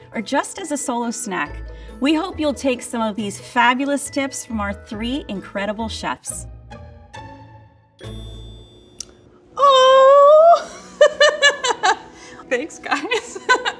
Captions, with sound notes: or just as a solo snack, we hope you'll take some of these fabulous tips from our three incredible chefs. [bright music] - Oh! [laughs] Thanks, guys. [laughs]